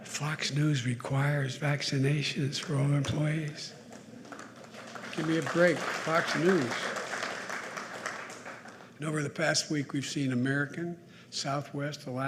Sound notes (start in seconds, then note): 3.8 applause